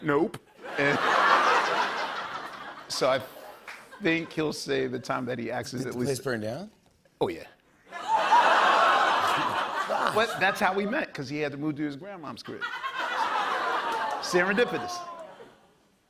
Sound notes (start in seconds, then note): 0.6 laughter; 12.5 laughter